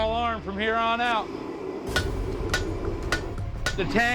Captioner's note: hammering